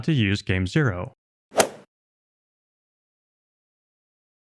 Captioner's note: golf swing sound effect